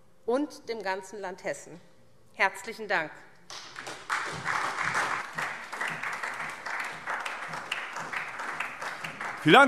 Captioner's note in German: Beifall SPD